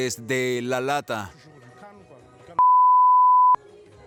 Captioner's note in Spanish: bip